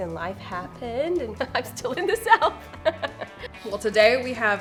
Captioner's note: laughs